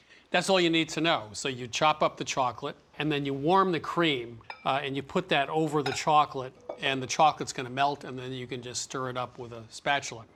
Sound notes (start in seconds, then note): none